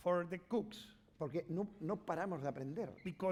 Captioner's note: speaking spanish